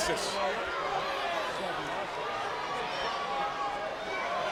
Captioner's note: crowd yelling